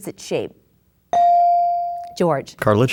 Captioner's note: bell dings